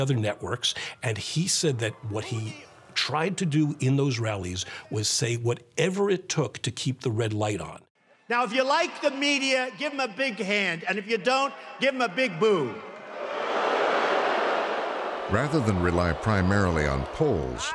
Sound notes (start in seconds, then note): 13.0 booing